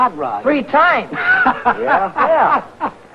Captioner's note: happy laughing